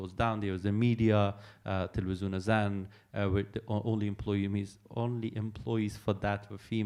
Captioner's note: non-english speech